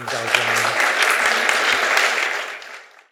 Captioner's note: applause